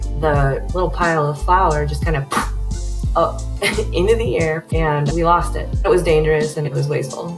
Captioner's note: puff